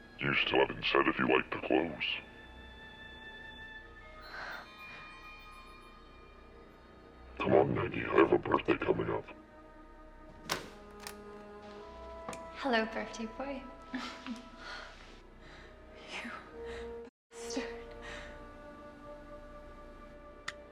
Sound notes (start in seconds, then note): 12.9 Maggie Voiceover; 17.4 dramatic music